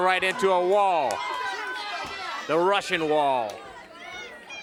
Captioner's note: crowd cheering